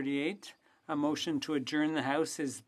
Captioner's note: speaking French